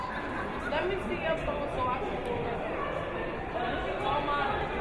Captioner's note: crowd murmuring